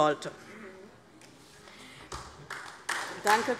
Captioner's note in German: Beifall DIE LINKE